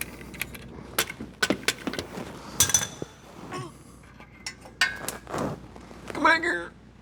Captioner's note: grunts